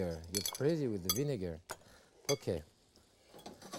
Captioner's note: spoon clinking